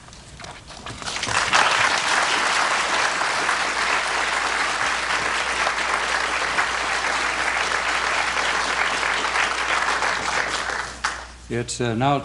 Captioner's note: applause